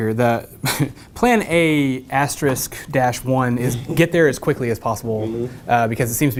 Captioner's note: laugh